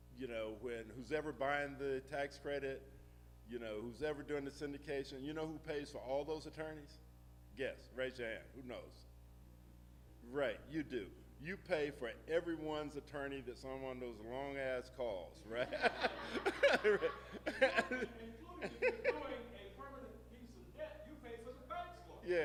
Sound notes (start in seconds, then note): 15.5 laughing; 15.5 audience laughing